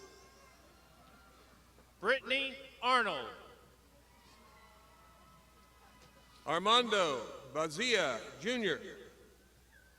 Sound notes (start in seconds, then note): 0.2 crowd shouting; 4.5 crowd shouting